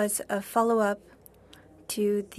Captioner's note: speaking French